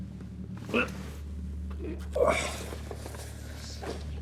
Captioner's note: Danny grunts